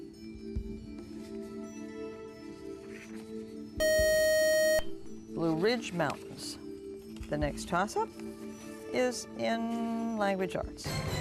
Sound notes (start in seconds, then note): 3.8 beep